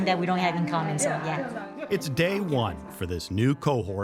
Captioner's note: participants chattering